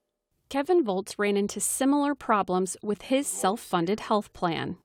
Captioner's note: voice-over